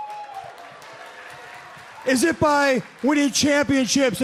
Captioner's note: crowd cheering